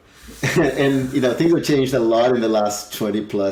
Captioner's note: chuckles